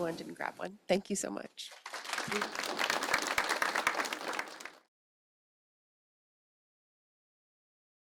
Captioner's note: applause